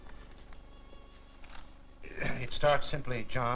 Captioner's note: clearing throat